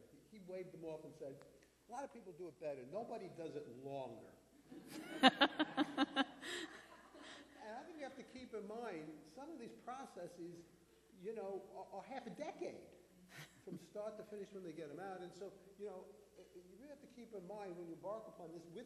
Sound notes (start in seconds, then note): 4.7 laughter